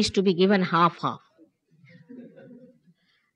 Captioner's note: laughter